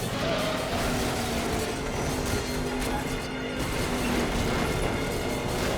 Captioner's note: tires squealing; race car crashes